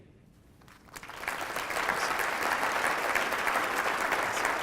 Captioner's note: audience clapping